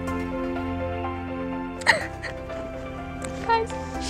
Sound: crying

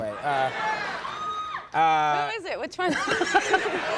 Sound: audience member screams

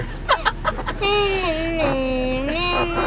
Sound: laughing

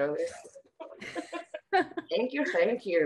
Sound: group laughing

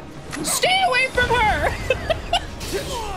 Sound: laughter

